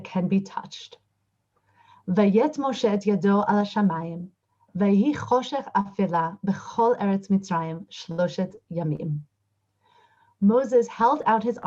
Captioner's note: recites 2nd verse in Hebrew